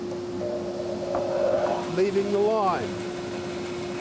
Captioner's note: saw whirring